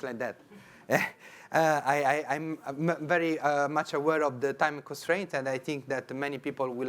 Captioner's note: chuckles